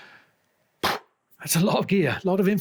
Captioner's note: pops mouth